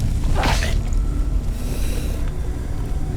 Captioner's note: yells; roar; choking noise; grunt